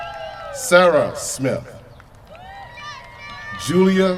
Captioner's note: cheers from crowd